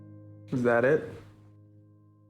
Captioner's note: voiceover